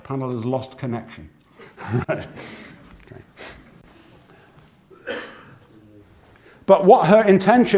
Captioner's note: laugh